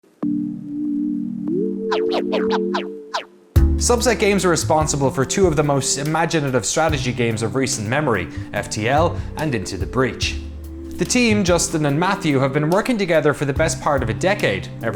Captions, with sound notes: (Techno music) (Record scratch) - Subset Games are responsible for two of the most imaginative strategy games of recent memory, FTL and Into the Breach. The team, Justin and Matthew, have been working together for the best part of a decade,